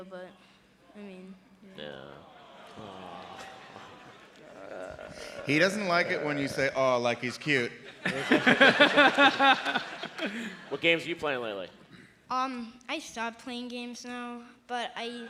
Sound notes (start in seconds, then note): 2.5 laughter